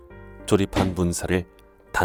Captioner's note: hammering sound